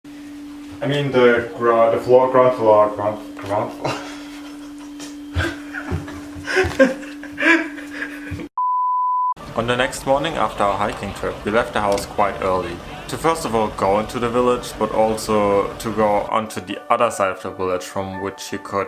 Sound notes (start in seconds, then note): 3.8 laughing